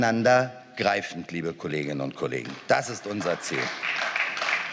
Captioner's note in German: Beifall